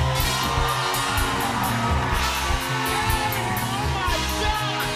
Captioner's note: cheers and applause